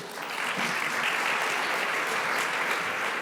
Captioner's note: applause